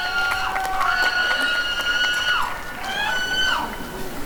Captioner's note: cheering and screaming